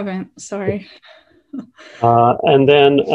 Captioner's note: chuckles